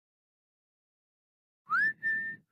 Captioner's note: whistling